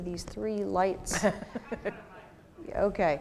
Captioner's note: laugh